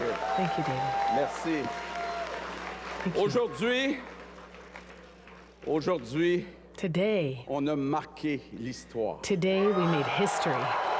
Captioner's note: cheers and applause